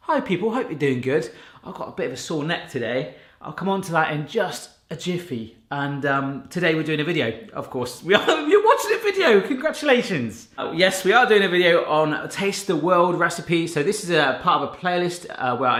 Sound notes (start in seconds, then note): 8.2 laughing